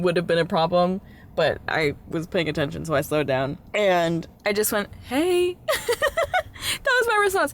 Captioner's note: laughter